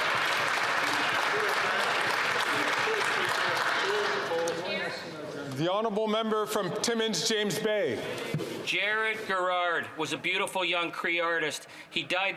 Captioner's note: some Applause